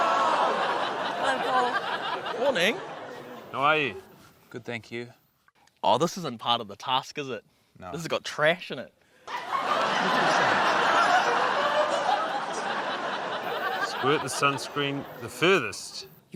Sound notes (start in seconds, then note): 10.9 laughter